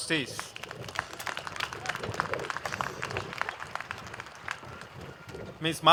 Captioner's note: applause